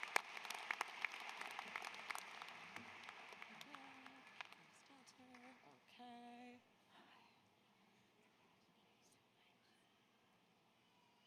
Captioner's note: applause